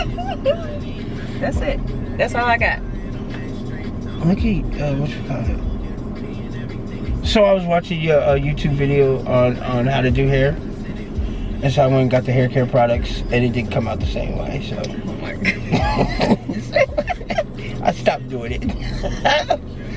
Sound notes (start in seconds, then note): 15.4 both laugh